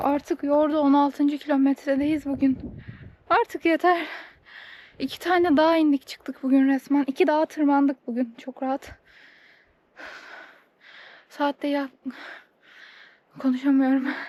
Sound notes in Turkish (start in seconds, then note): 10.0 iç çeker